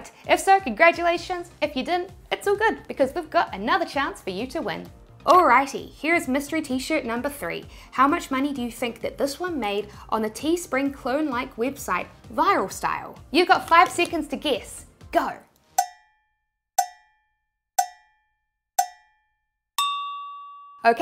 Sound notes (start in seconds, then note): 15.5 cowbell timer tings; 19.8 high-pitched bell dings